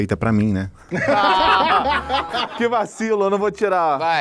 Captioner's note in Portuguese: risadas